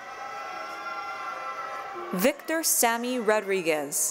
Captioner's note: cheering